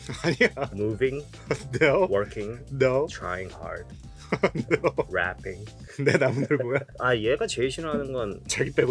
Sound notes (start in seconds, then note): 0.1 speaking in Korean; 4.2 laughs; 6.0 speaking in Korean